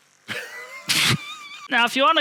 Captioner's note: wheezing